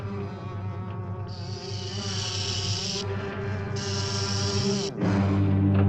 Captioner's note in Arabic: موسيقى متوترة مستمرة; صوت خشخشة ثعبان; موسيقى درامية